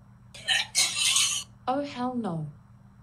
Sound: barfing

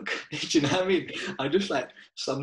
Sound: laughing

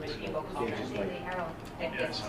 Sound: people talking

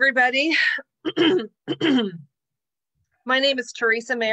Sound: clears throat

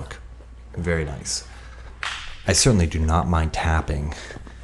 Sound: hands slapping

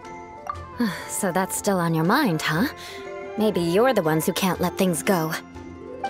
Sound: sigh

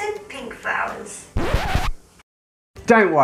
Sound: record scratch

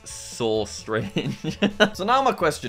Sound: laughs

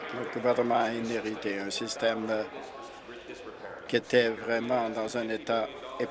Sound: applause

